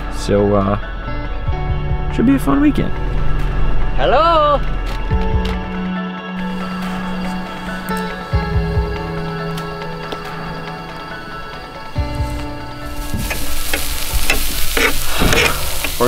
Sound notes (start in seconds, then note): 6.4 crickets chirp; 9.7 bow twangs; 12.0 meat sizzles